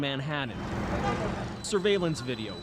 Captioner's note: sirens